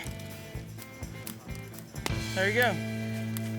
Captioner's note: fire crackling; string breaks